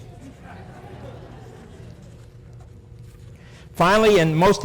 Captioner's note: laughter